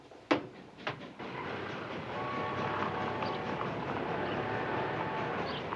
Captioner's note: train whistle